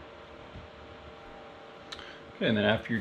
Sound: fan whirring noise

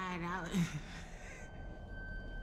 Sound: laughing

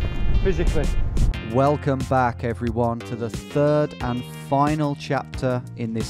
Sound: voiceover

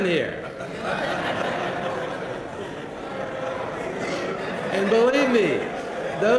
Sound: laugh

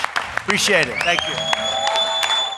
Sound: applause

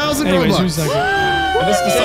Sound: all cheering

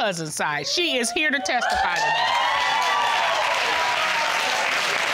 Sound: audience cheering

